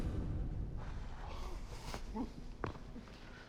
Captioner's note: exhales